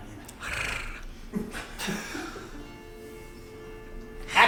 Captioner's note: purring